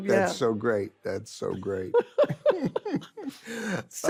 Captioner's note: laughs; carol laughs